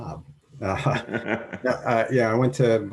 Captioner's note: laughs